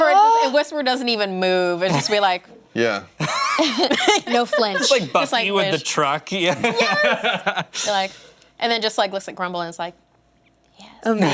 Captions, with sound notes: - Whisper doesn't even move, and just be like... (laughter) - No flinch. - Just like Buffy with the truck. - Yes, and then just looks at Grumple and is like, yes.